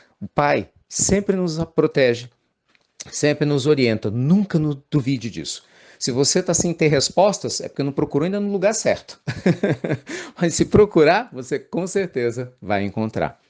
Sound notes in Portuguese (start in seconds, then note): 9.2 Risos